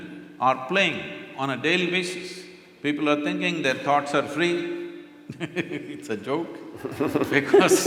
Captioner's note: laughter; laughs